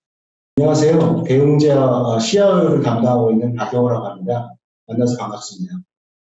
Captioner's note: speaking in foreign language